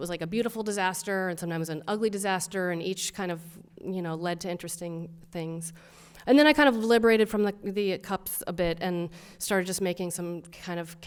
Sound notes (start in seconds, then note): none